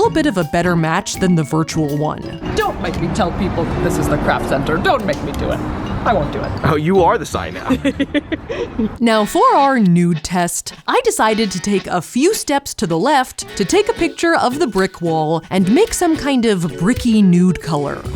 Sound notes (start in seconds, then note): 7.6 laughs